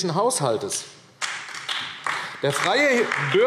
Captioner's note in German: Beifall AfD